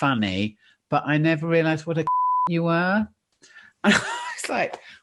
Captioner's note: beep